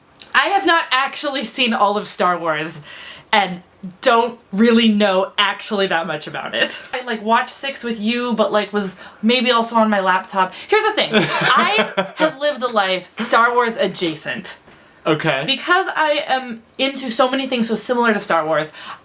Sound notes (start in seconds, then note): 11.1 laughs